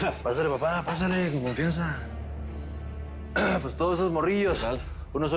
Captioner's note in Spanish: Carraspea